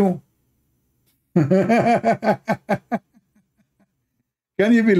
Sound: Ketawa

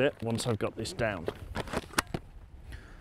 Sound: helmet clicking closed

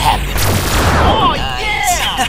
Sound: laser blasts

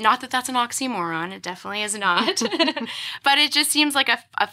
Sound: both laugh

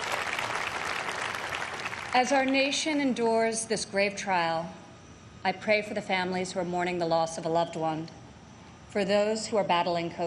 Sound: applause

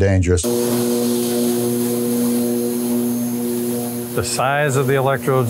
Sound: electricity hissing

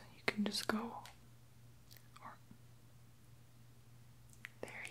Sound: mashes lips together

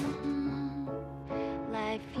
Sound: humming

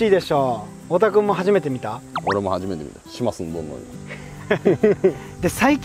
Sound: haha

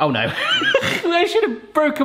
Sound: laughing

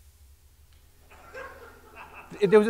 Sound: laughter

